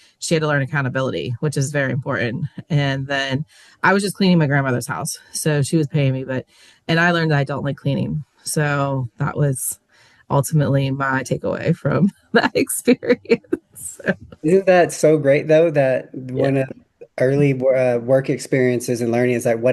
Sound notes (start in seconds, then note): 12.4 laughs